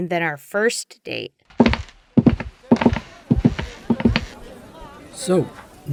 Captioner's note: walking